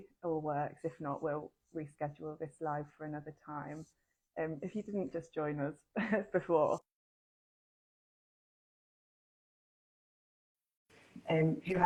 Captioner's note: audio cuts out